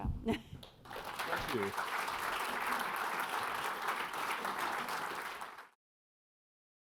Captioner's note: audience applauding